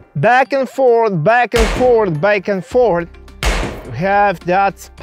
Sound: gunfire popping

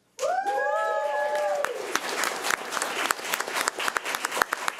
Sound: audience cheering

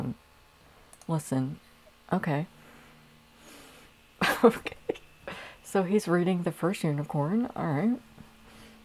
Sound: laughing

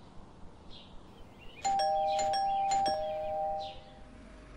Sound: doorbell rings several times

